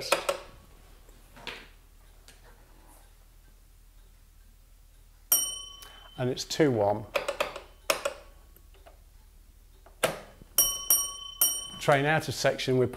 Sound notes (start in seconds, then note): 0.3 the tapper clicks once; 2.7 silence - waiting for a response; 5.3 a bell rings; 7.3 the tapper sounds 2-1; 7.9 the instrument knob clicks; 10.5 the bell rings 2-1